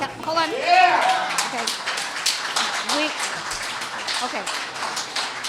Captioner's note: cheers and applause